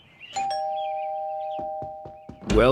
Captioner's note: doorbell rings